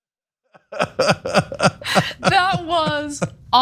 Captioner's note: laugh